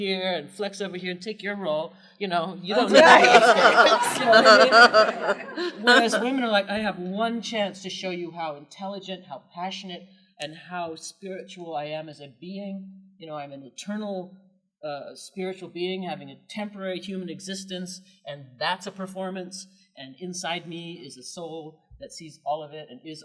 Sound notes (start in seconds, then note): 2.7 laughter